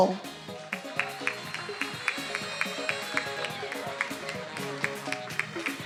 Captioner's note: attendees applauding and cheering